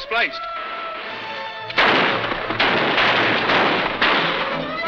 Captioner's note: guns firing